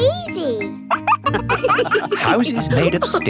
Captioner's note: wolves laughing